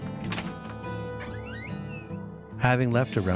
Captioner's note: door creaking